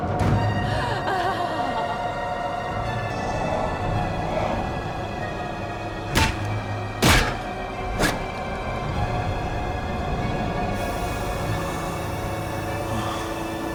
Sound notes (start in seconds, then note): 7.0 head thuds; 10.8 gas hissing